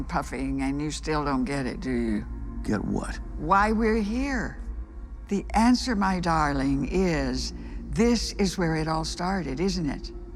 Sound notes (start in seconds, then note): none